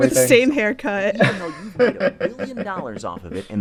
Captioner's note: laughter; soundbite of archived recording